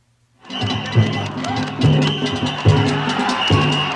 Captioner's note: cheers